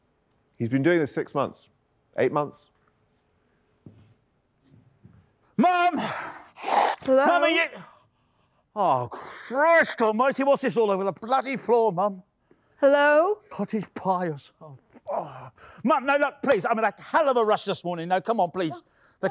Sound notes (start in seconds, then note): 6.2 sniffing